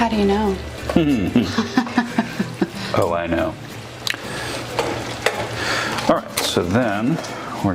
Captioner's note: chuckles